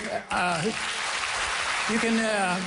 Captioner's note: applause